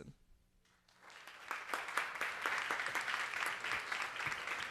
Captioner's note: audience applauding